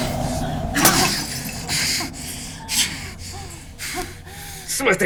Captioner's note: glass clanking